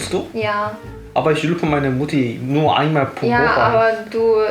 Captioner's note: the invalid cries